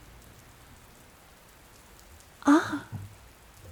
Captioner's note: pause